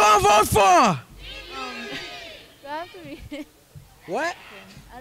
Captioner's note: crowd